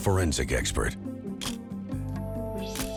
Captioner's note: camera shutter click